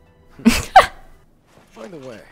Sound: laughs

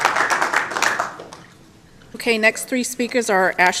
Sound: applause

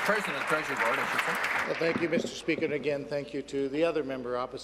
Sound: applause

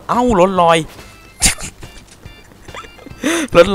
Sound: laughing

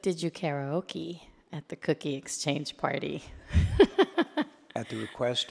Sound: laughs

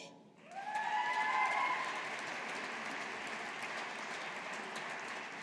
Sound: audience applauding

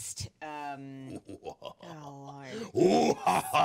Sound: manically laughing

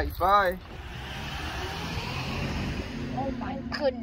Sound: car drives away

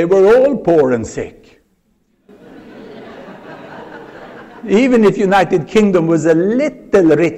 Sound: laughter

